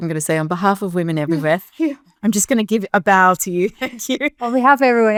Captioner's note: chuckles; laughs